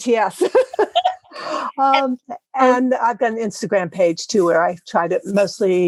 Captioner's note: laugh